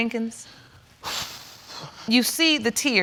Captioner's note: exhaling deeply